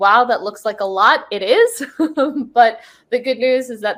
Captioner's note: laughs